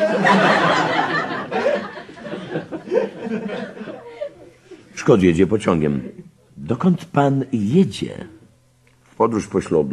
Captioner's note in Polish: śmiech